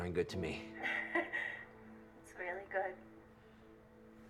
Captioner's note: chuckles